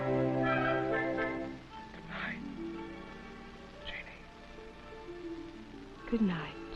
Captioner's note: whispering